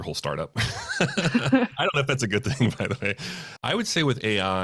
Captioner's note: laughing